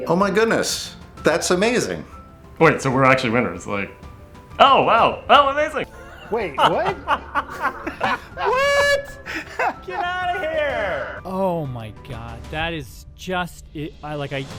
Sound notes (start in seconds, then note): 5.8 laughing